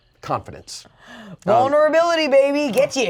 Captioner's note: gasps